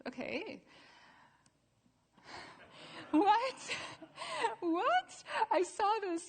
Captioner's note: laughter